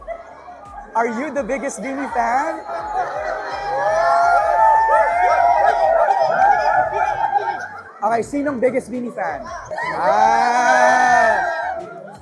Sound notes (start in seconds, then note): 2.7 overlapping chatter, cheering; 9.4 squealing, cheering